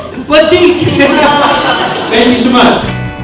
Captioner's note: laughing